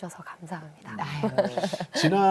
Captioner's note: laughter